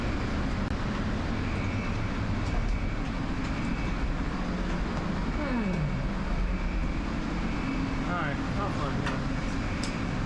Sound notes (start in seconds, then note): 5.4 sighs heavily